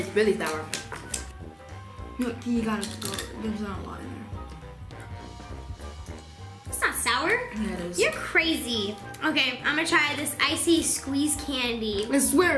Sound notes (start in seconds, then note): none